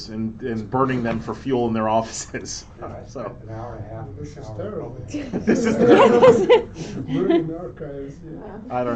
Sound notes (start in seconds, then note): 2.3 laughs; 5.1 laughter